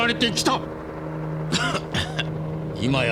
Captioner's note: cough